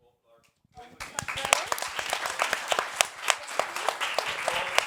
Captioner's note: all clapping